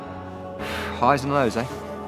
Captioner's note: smoke exhaling